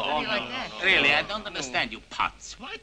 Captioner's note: all grumbling